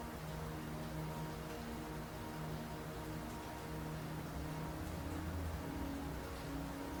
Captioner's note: soft music; water trickling